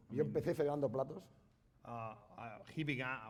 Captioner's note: speaking spanish